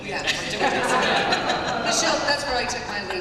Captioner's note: laughter